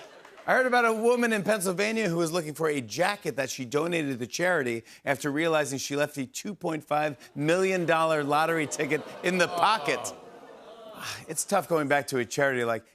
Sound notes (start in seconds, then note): 8.6 audience groans